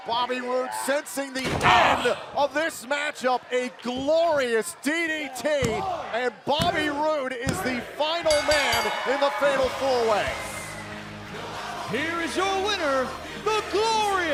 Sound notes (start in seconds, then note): 8.2 bell ringing